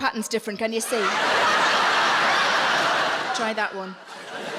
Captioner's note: audience laughing